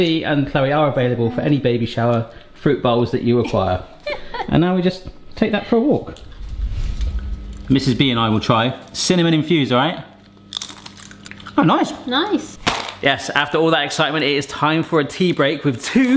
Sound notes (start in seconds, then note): 3.4 giggles; 10.4 fruit crackles; 12.6 package slams